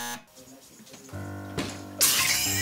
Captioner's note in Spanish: zumbador; Whump!